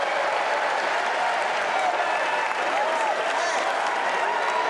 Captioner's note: applause